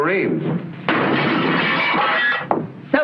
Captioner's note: smashing glass